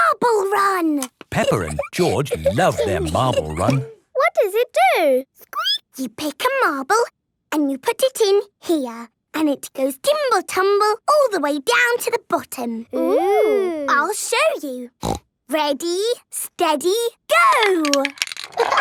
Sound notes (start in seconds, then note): 5.4 squeaking; 15.0 snorting